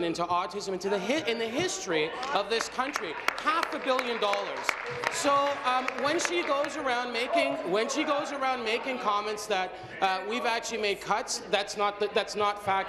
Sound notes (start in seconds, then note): 7.0 applause